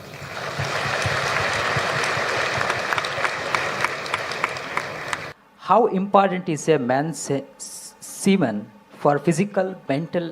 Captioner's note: applause